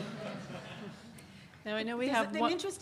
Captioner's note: audience laughs